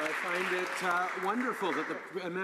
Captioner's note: some Applause